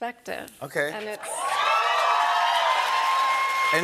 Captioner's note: cheers and applause